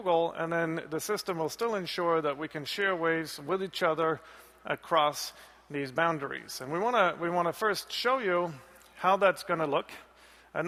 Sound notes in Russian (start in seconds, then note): none